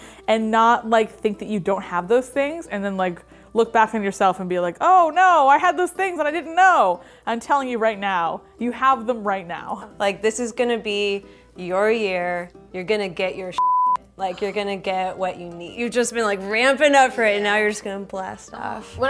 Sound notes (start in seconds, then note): 13.6 beep